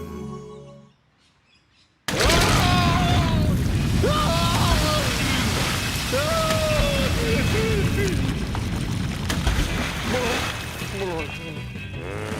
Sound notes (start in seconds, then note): 2.1 screams